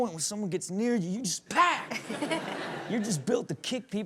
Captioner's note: Chanel and audience laughing